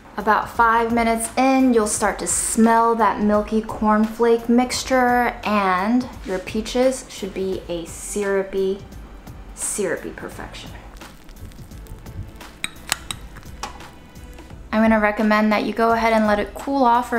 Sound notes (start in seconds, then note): 10.8 food squishing